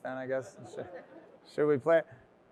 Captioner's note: audience laughs